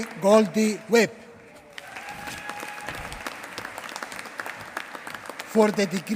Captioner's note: applause